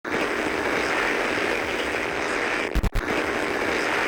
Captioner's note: television static